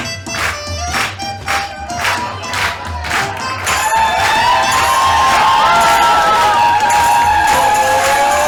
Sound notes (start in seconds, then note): 1.5 cheering